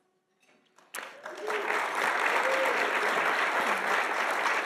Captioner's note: audience applauding